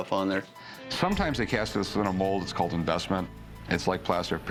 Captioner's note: none